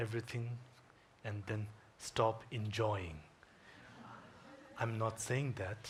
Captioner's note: audience chuckling